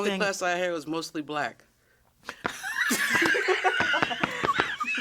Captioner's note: all laughing; shoes thudding